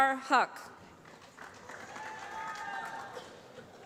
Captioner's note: applause